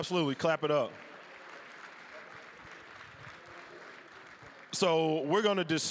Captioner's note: applause